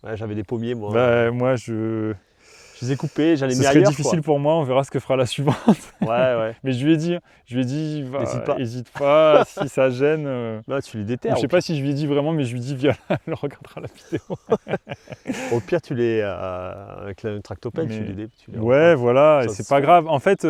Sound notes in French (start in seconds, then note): 5.4 rires